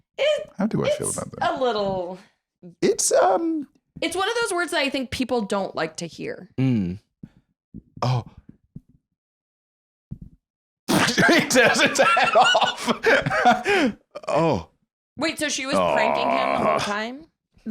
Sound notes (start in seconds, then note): 11.0 laughing